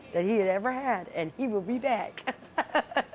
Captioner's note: laughter